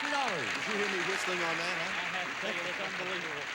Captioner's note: audience applauding